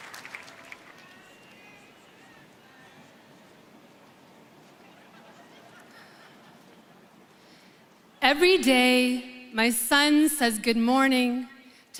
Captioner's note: applause